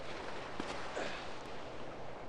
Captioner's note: breathing